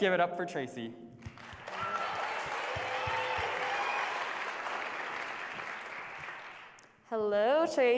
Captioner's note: applause